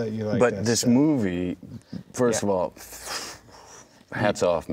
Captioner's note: puffs air